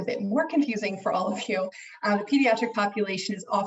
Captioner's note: laughs